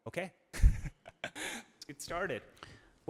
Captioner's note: laughing